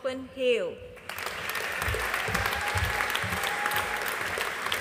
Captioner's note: audience applauding